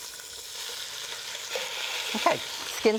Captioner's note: chicken sizzling